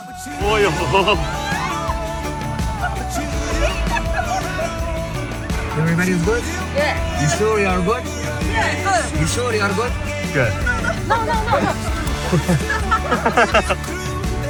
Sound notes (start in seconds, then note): 0.0 screaming